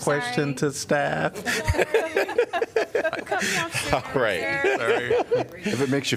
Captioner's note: laughter